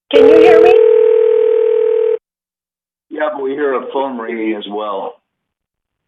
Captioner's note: ringing phone